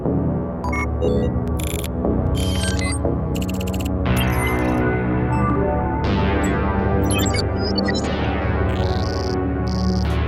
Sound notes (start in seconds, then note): 1.2 text chirping; 2.4 radar beeping; 7.4 text chirping